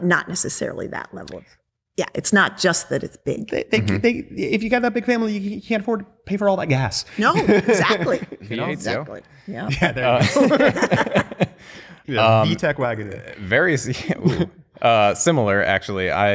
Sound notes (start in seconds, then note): 9.7 laughter